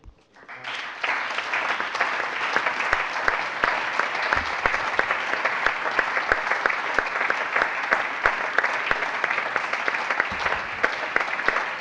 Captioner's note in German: Allgemeiner Beifall